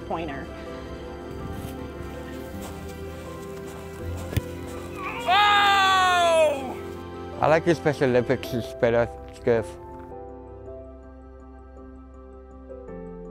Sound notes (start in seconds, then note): 0.7 uplifting music; 5.0 exclamations; 10.2 uplifting music